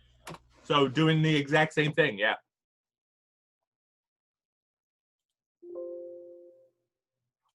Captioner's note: silence